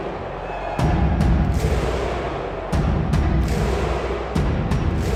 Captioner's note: crowd shouting